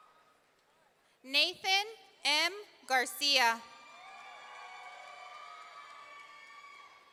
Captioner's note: audience cheering; audience cheering